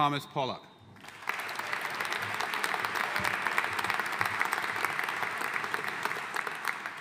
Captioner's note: audience cheering and applauding